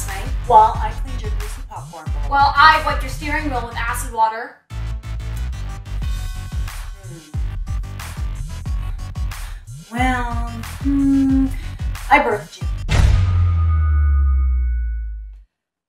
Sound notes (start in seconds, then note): 12.8 intense Boom Sound Effect